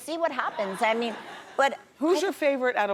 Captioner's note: audience laughs